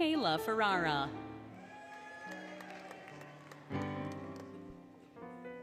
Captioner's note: applause, Cheering, Music